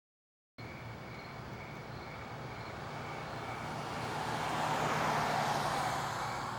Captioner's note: crickets creaking